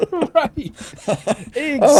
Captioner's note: both laughing